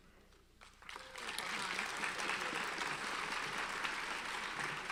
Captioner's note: audience applauds